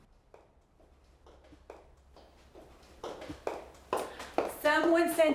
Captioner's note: footsteps approaching